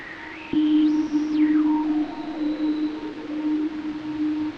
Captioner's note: soft beeping and whirring